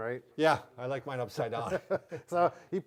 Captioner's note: laughing